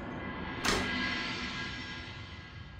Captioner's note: door opens